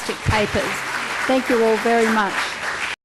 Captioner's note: applause